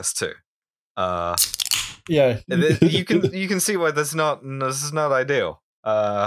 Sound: TASTY beer can snap to break the tension

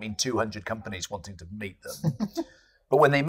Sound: laughs

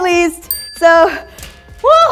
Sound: bell dings

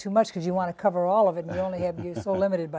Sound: laughter

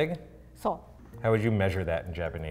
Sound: speaks in foreign language

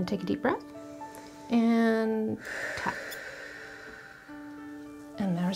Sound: inhaling

